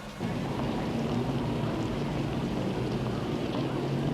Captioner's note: traffic rumbling